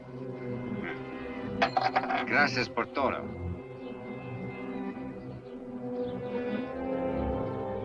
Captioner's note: speaks Spanish; coin clinks